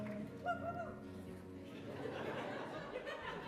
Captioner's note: audience member belts cheer; laughter